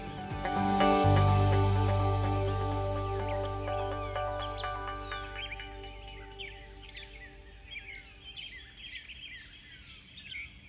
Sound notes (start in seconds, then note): 0.0 uplifting inspiring music; 7.3 birds chirping